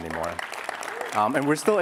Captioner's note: applause